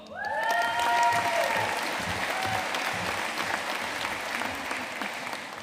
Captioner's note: audience cheering and applauding